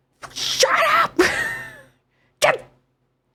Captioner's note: stifled scream